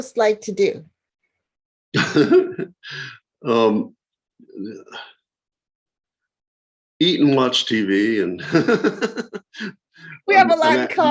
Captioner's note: chuckles